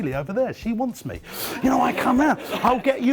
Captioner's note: audience laughing